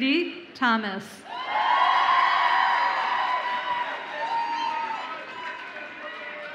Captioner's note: audience applauds and cheers